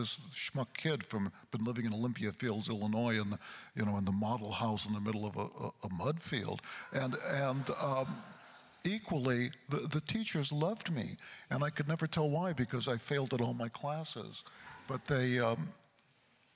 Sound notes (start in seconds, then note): 6.7 crowd laughter